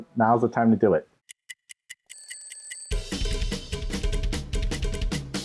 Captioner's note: clock ticking; upbeat music